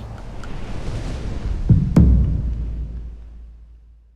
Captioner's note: skis whoosh